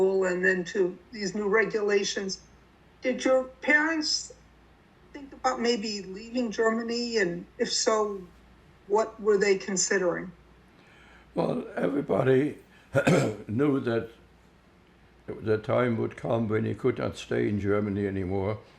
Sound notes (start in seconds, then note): 12.9 clears throat